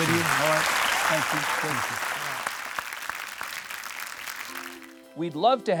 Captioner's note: audience clapping